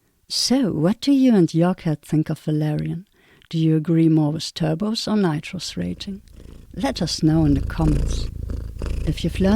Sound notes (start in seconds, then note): 8.2 cats purring